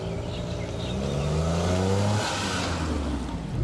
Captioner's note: engine roars